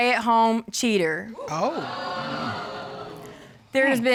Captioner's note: audience exclaiming